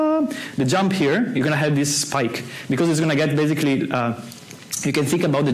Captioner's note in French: fait les sons